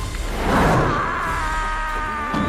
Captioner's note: screaming